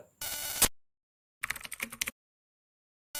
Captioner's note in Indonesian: suara interferensi; suara mengetik